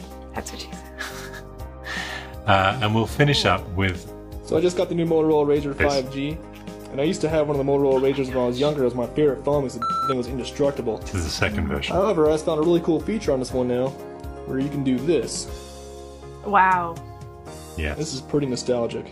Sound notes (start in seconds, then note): 1.0 laughs; 9.8 beep